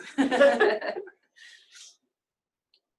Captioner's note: laughs